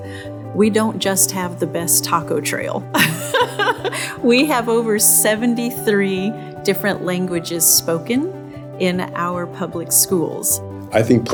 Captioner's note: laughing